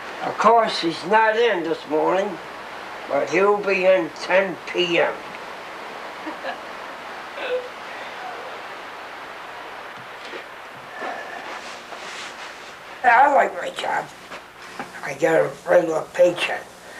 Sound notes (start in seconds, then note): 6.2 woman laughing in background